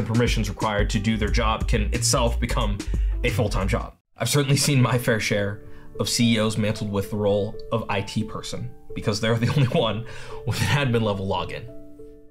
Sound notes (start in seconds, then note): 5.8 solemn piano music; 9.4 chuckles